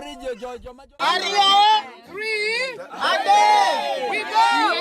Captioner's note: chatter